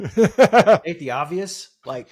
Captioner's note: laughs